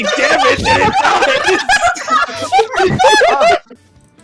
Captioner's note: everyone losing it